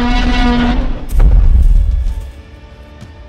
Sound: loud T-Rex Roar; stomping sounds

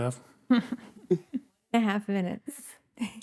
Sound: laughing

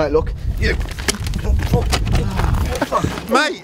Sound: scuffling

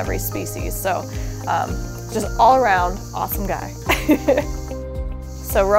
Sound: laughs

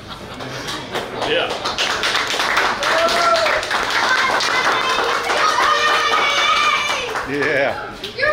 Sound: clapping & Cheering

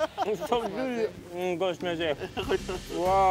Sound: speaks foreign

